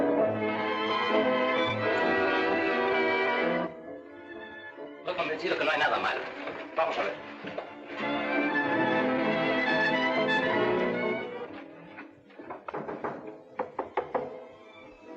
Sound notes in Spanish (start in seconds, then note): 12.4 Llaman a la puerta